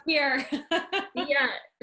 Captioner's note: laughing